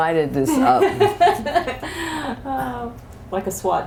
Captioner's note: laughter